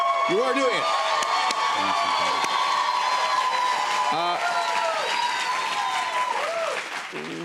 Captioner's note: cheers and applause